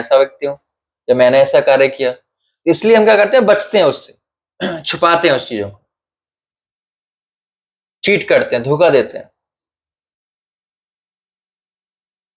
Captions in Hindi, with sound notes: ऐसा व्यक्ति हूं या मैंने ऐसा कार्य किया। इसलिए हम क्या करते हैं? बचते हैं उससे। छुपाते [गला साफ़ करने की आवाज़] हैं उस चीजों को। चीट करते हैं, धोखा देते हैं।